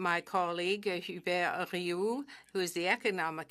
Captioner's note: speaking French